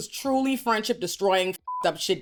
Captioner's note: beep